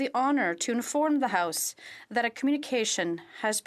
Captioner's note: speaking French